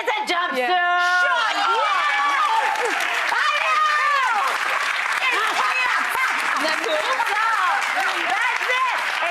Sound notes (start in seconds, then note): 2.1 audience applauds